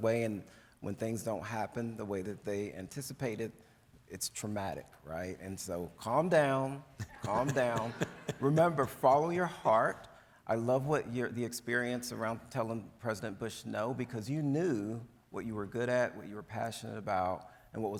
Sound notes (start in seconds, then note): 7.1 audience laughs